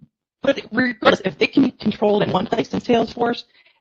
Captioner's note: audio distortion